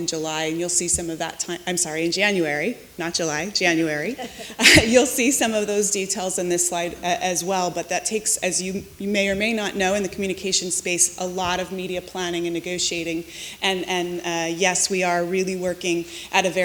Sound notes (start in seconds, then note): 4.1 chuckling